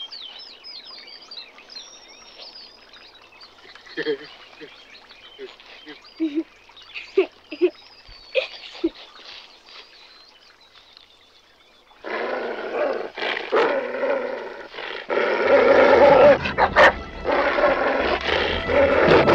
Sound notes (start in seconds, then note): 4.0 Bubba chuckling; 6.2 Marylee chuckling; 12.1 dog growling; 15.1 dog snarling; 15.5 suspenseful music